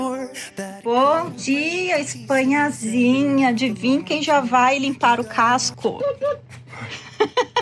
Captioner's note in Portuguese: risadas